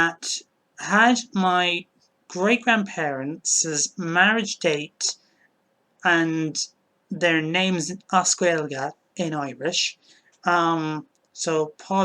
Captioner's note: in Irish